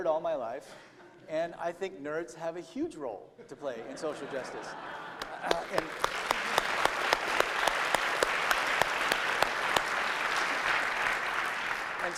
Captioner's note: applause